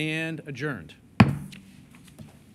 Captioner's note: gavel